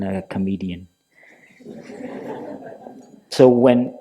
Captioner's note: laughter